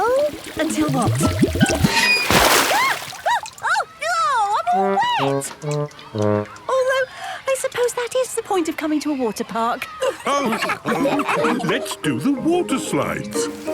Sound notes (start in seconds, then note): 9.8 all laughing